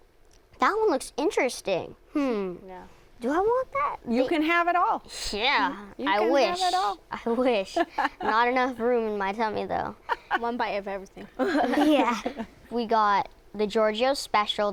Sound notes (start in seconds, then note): 5.1 scoffing; 11.2 laughter